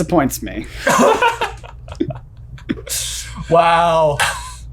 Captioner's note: laugh